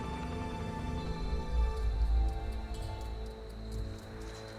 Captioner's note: crickets chirping